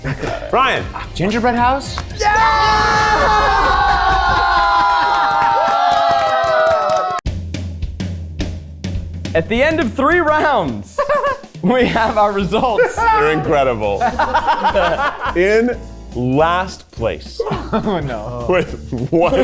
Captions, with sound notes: - Brian. - Gingerbread house? (everyone cheering) (upbeat music) - At the end of three rounds, we have our results. - They're incredible. In last place with one point.